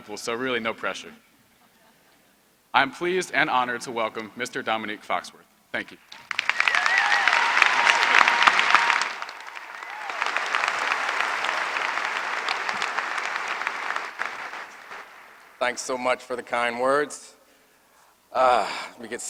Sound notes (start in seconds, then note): 9.7 applause